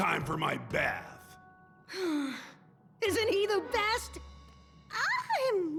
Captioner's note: sigh